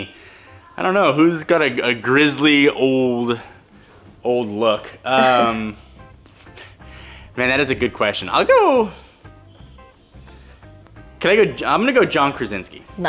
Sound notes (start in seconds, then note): 5.2 laughs